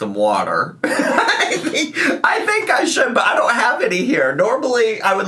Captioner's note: laughing